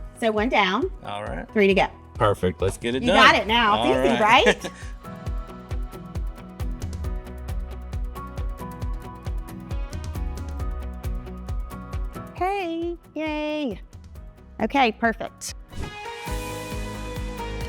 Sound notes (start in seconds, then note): 3.1 chuckling; 5.4 bright music; 15.6 bright music